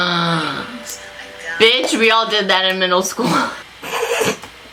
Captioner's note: gasps; laughs